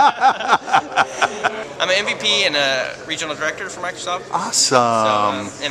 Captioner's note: laughter